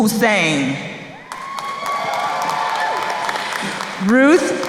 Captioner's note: crowd cheering